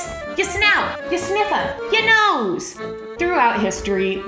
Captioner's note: in New York accent